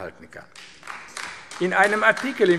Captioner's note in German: Beifall AfD